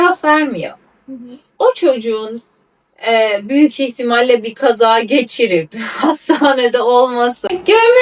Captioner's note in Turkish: kahkaha